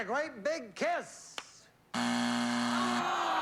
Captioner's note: buzzer